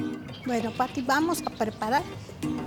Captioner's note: woman speaking Spanish